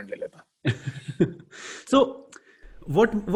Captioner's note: laughing